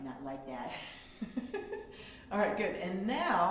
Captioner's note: laughs